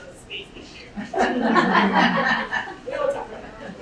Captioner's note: laughing